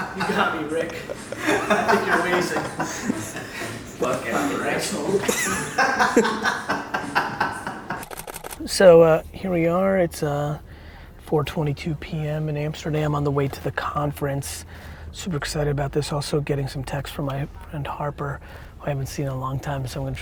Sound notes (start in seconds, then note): 0.1 all chuckle; 5.8 all laugh